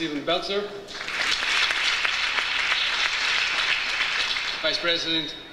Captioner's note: audience applauds